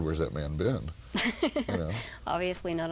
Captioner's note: laughing